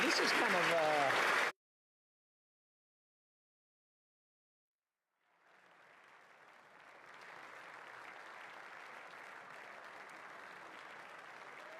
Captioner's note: applause